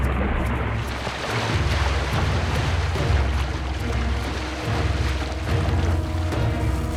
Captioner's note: splashing